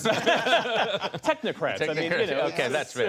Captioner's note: laughter